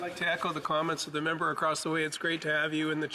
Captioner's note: speaking French